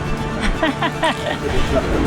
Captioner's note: laughing